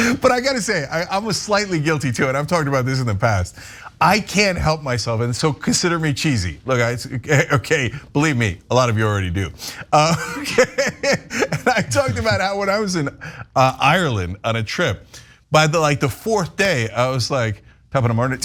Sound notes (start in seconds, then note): 9.9 laugh